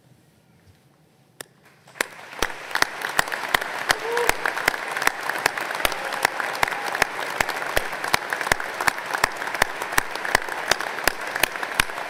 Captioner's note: applause